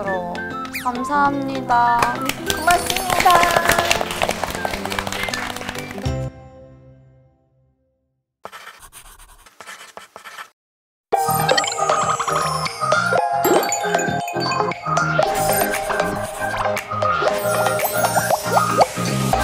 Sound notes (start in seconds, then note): 2.0 claps